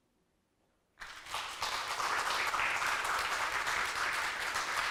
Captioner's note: audience clapping